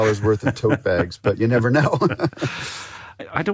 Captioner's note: laughs